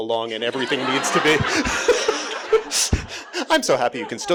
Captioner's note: audience laughing